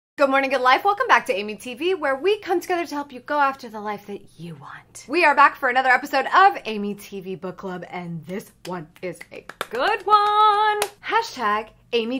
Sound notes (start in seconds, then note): 9.0 clapping hands